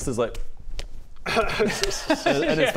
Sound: slaps

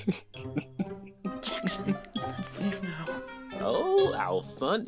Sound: snickering; whispers

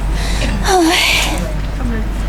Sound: sigh

